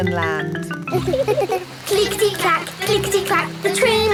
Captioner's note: laughing